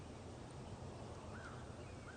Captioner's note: birds chirping